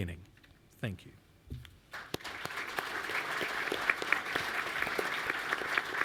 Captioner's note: applause